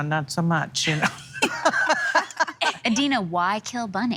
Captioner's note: laughing